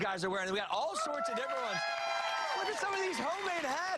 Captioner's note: cheers and applause